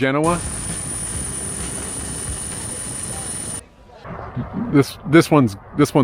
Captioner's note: footage buzzing